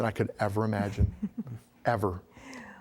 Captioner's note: giggling